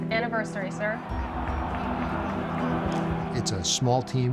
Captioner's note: crowd applauding and cheering